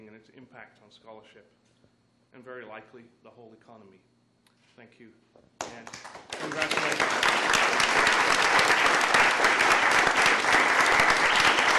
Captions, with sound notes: and its impact on scholarship, and very likely the whole economy. Thank you and congratulations. (crowd applauds)